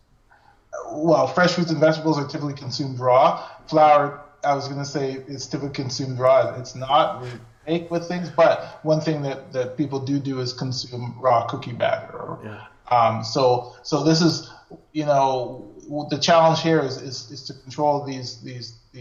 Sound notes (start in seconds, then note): 6.2 audio skips